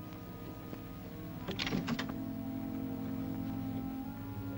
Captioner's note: ominous music; latch clicks; ominous music